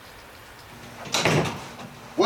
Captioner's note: rain Falling; door Slams